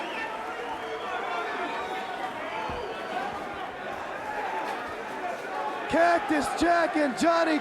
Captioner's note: crowd chatter